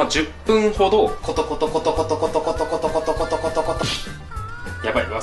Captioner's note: sound of simmering